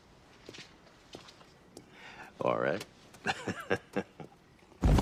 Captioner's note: laughs